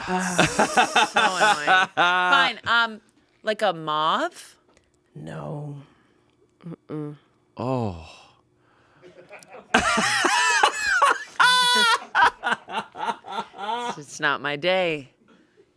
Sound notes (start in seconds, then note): 0.0 laughs; 9.1 everyone laughs